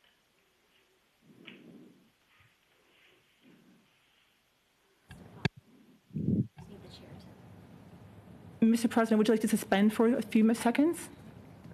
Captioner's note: silence